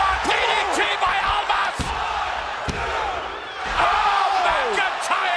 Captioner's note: crowd cheering